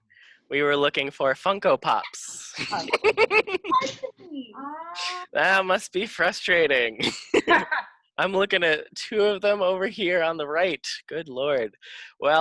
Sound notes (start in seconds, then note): 2.5 laughing